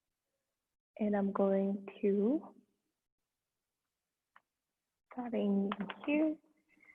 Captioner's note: converse quietly